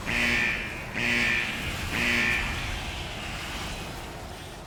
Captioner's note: buzzing